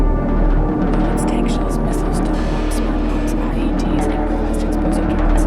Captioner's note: narrator, distorted